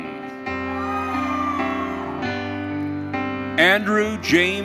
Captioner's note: audience cheering